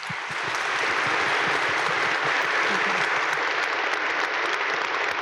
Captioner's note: audience applaud